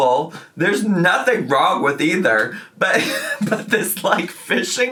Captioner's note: chuckles